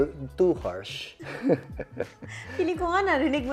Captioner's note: giggles